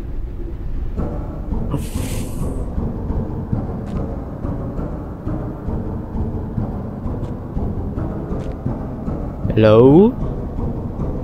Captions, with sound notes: ( thumping sounds again, but longer ) helloooooooooooo?